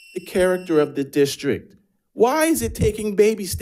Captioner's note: buzzer buzzing